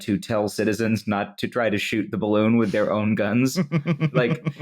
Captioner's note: chuckles